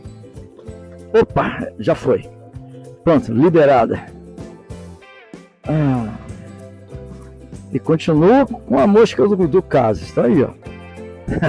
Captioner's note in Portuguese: risadas